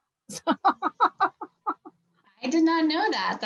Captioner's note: laughs